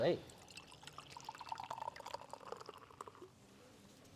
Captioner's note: cider splashing